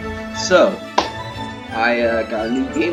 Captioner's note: clap